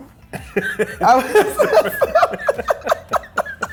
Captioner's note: laughing